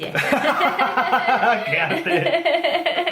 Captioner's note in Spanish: Risas